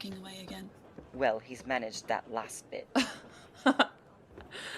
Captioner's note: Regulus laughs